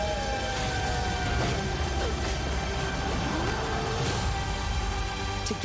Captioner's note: howling